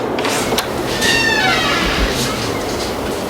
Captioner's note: door squeaks